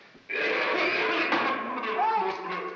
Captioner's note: coughing